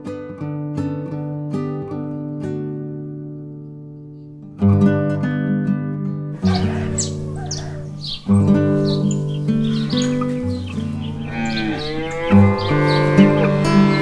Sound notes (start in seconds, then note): 7.7 cockerel crows; 9.3 birds sing; 11.7 cows low